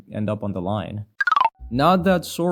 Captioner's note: skeleton noises